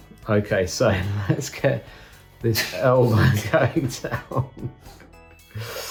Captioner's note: laughs